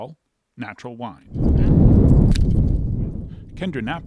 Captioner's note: wind whooshing